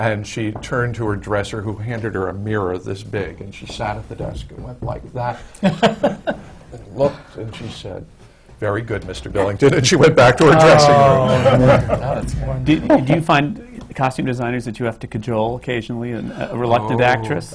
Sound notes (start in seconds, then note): 11.1 laughter